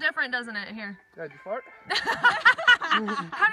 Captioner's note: laughs